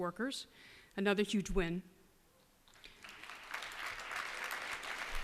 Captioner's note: applause